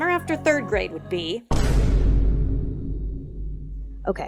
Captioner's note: boom